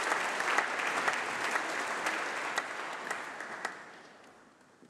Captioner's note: applause